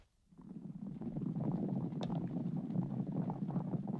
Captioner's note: horses galloping